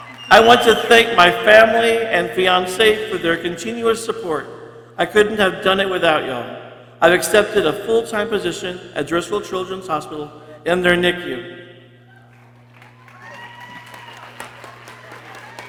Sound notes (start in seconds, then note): 0.0 people cheering; 12.1 people cheering